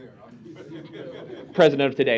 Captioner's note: laughter